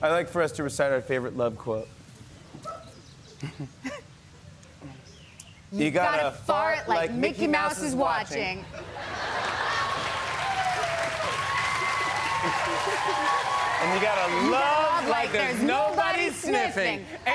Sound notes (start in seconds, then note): 3.3 chuckles; 8.7 laughter; 9.1 cheers and applause